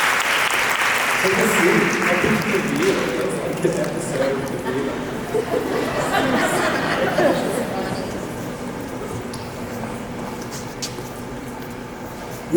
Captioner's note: laughter